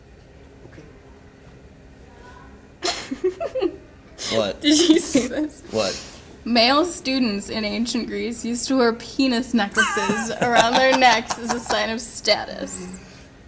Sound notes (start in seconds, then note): 2.8 giggles; 9.7 laughs